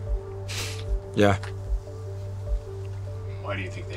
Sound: sniffles

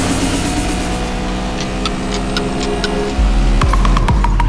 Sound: clock ticking

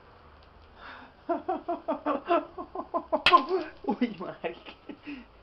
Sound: laughs

